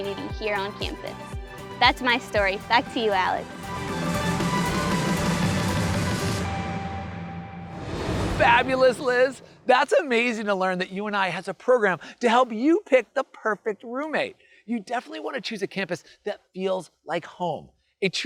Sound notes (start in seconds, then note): 4.1 bright music; 7.5 graphics whooshing